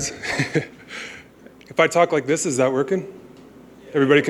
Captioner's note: laughter